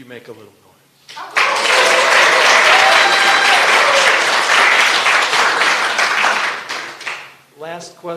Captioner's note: applause and cheering